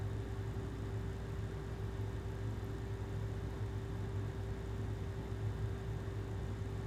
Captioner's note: air conditioner humming continues